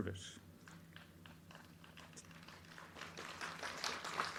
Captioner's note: crowd clapping